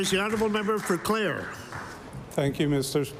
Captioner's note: applause